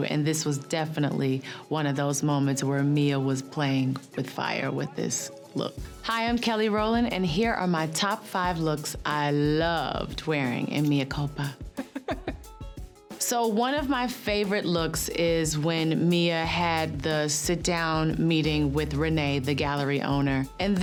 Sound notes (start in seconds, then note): 11.7 laughs